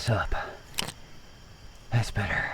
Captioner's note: light clicks